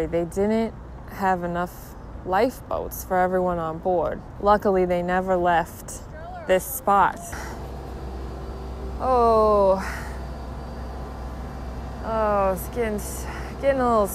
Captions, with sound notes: they didn't have enough life boats for everyone on board. Luckily they never left this spot. (buzzing) Oh, its gettin' a little seasick.